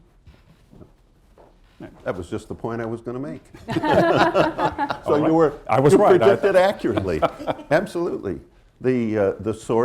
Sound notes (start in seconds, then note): 3.6 laughter